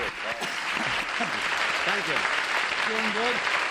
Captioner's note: applause